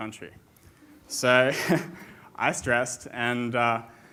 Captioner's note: chuckles